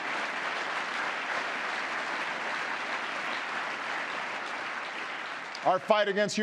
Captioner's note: applause